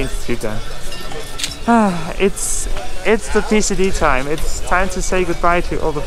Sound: sighs

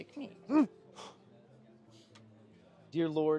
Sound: grunts

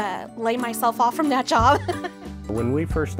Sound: laughs

